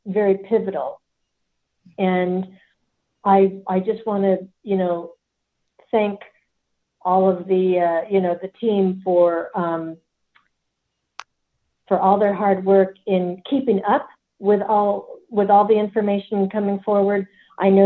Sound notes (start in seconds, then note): none